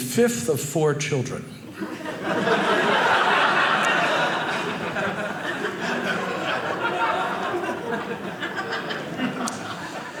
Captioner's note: audience laughing